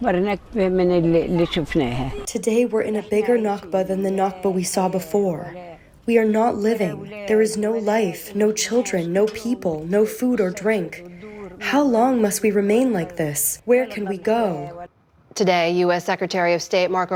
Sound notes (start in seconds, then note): 2.3 through translator